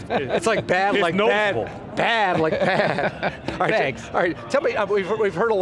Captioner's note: laughter